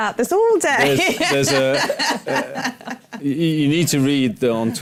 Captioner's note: laughter